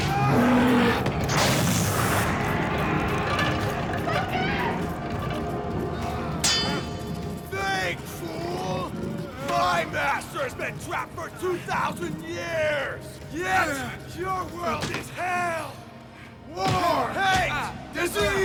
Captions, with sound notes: (thud) (roars) - Lukas! (swords clang) - Beg, fool! My master's been trapped for 2,000 years! Yet, your world is hell! War, hate, disease!